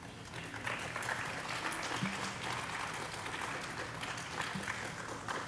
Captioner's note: audience applauding